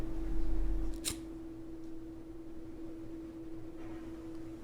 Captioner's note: the sound of a lighter being lit